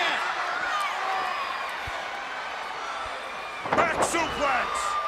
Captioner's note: crowd cheering